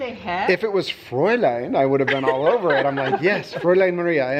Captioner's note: foreign language; foreign language